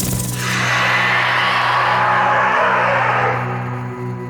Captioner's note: snake growls